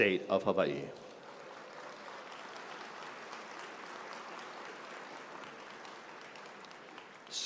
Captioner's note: applause